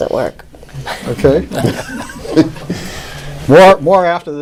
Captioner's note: laughing